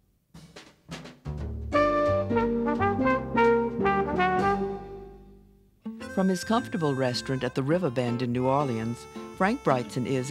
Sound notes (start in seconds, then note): 1.1 jazzy music; 5.8 voiceover